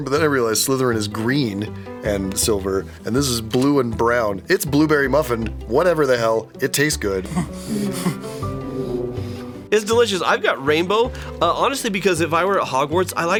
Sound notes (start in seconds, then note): 7.3 chomp, chomp